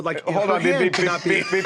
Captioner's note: laughter